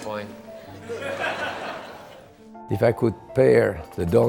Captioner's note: laugh